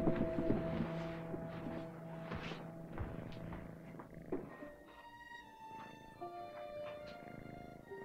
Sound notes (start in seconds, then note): 1.7 cat softly purring; 1.7 ominous music